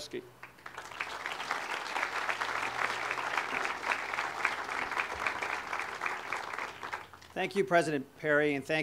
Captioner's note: audience applause